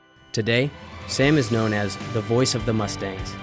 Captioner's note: voiceover